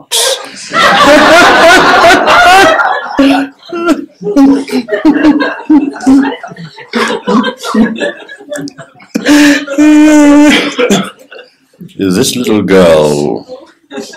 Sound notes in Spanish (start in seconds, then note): 7.3 Risas generales